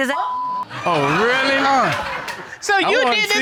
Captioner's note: all laughing